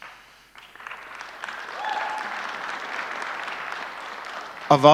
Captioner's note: audience applauding